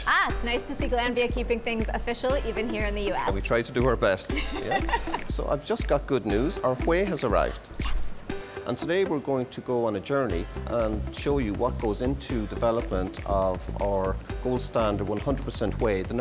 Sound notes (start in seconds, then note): 4.3 laughing